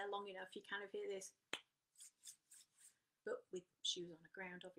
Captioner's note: clap and scrapping sound of hands together